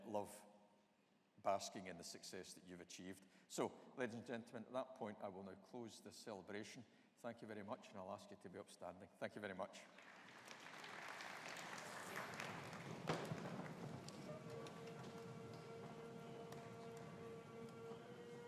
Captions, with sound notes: love basking in the success that you've achieved. Ladies and gentlemen, at that point, I want to close the celebration. Thank you very much and I'll ask you to be upstanding. Thank you very much. (AUDIENCE APPLAUDING) (BAGPIPES PLAY)